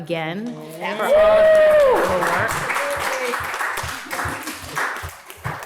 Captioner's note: audience cheering and applauding